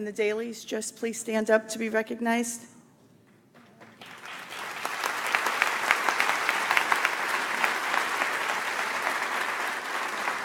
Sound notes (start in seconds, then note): 3.8 audience applauds